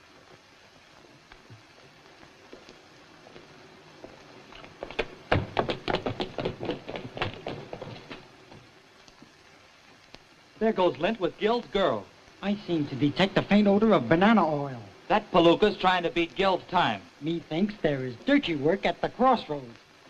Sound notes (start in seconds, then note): 4.1 footsteps